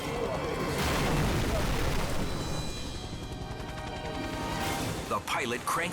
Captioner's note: helicopter slams; water splashes